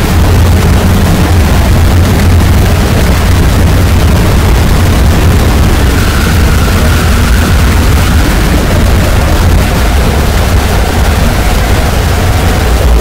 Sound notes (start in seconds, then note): 0.1 rumble; 0.7 phantom mangle noises continue; 5.3 screams of the damned; 8.9 more phantom mangle noises